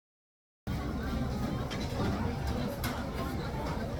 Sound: audio is wonky cuz of crowd inside

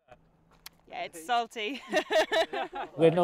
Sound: laughs

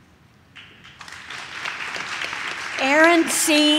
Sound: audience claps

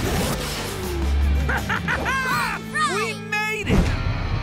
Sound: laughing

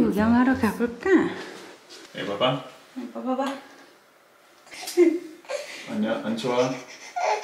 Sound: laughs

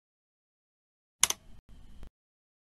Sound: click sound

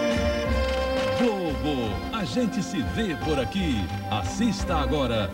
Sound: male announcer speaking Portuguese

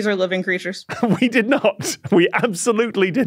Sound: giggles

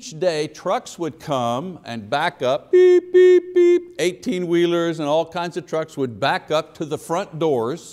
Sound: beep Beep Beep

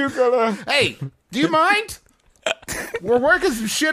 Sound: laugh

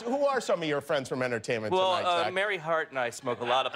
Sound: laughter

